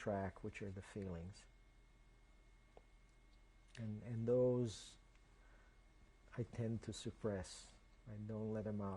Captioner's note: pauses for 3 seconds